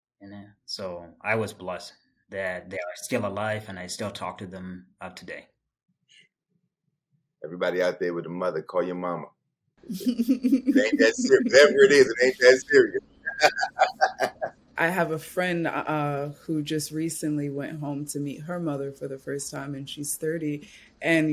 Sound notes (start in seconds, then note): 9.9 laughs